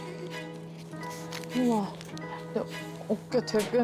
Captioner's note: sound of awe